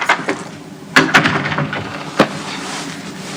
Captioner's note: door closes